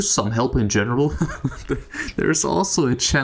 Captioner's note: laugh